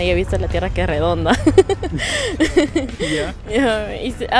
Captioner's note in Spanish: Risas